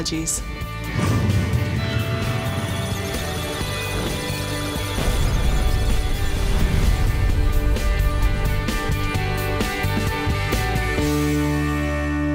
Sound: electronic Sounds of Data

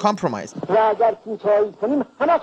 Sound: speaking Farsi

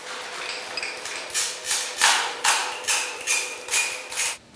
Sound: squeaks, clacks

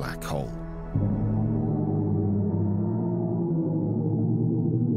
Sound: black hole whirring

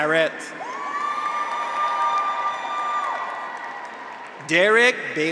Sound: graduates cheer; audience applauds

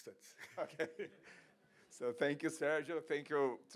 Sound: chuckles

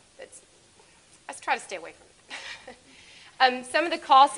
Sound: laughs

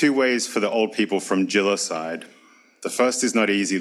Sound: speaks foreign language

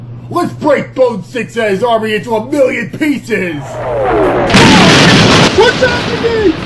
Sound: explosion rocks the base

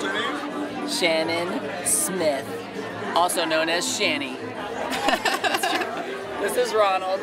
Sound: laughing

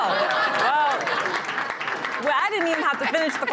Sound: applause

